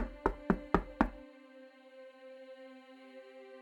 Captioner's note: knocking sounds